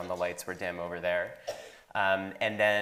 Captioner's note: attendee coughing